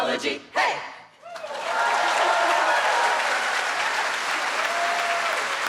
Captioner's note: applause